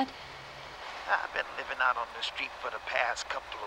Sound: on phone

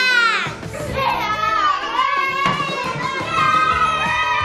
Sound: children cheering

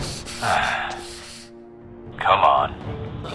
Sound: sigh

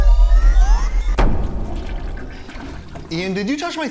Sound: distorted whirring noises; low thud

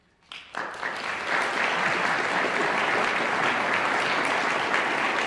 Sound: audience applauding

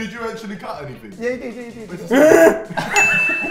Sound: laughing; making sound effects; loud growl

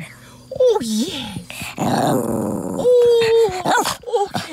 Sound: fun growl

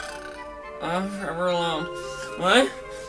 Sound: snoring

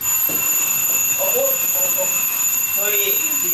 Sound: Seungmin's alarm rings at that moment

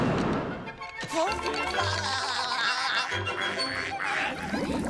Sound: laughing

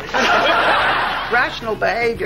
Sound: audience laughing

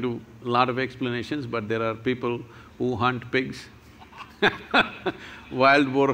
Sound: laughs

